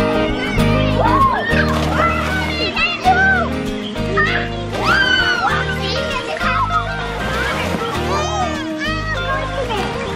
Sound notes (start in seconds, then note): 1.0 kids yelling and screaming